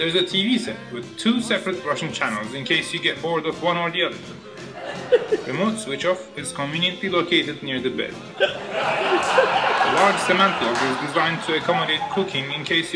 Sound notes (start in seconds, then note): 8.4 audience laughing